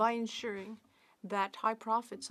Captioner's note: speaking French